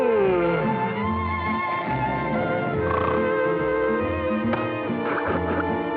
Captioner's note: snoring